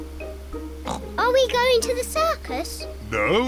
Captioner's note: oinks